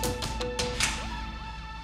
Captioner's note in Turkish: Kapı açıldı